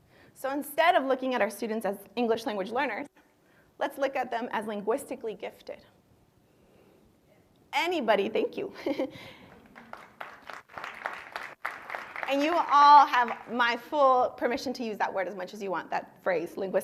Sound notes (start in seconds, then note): 9.4 applause